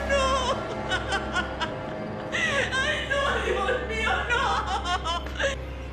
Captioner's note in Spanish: Sollozos